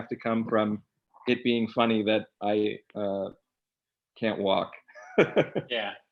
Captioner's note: laughs